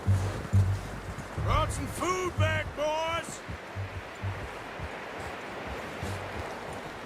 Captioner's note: yells